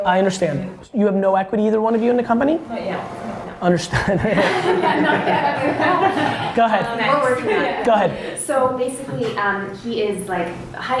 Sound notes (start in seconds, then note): 3.8 laughs